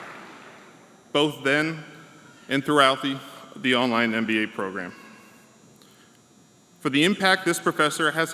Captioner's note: applause